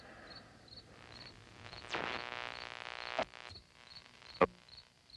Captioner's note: static buzzing; frequencies tuning